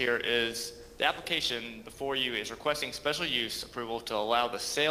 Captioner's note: ~audio distortion~